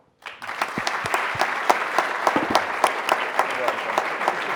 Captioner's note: audience applauding